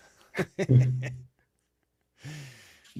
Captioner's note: laughs